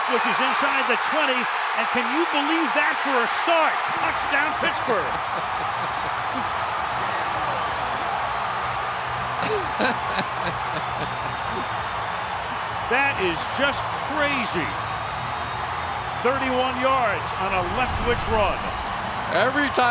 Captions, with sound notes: And Leftwich is inside the 20. And can you believe that for a start? Touchdown, Pittsburgh. [laughs] [cheering] That is just crazy. 31 yards on a Leftwich run.